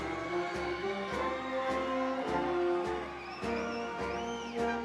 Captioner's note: audience cheering